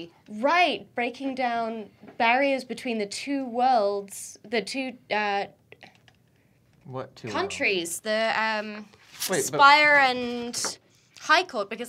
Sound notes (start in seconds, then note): none